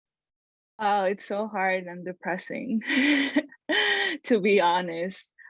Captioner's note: chuckles